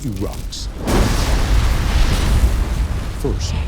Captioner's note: fire roaring